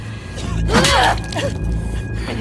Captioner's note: screaming